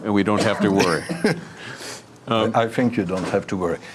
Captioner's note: laughs